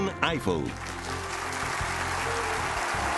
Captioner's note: applause, cheers